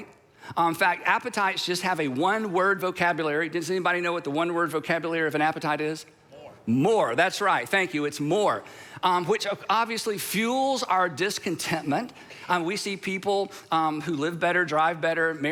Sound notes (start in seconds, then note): 6.4 crowd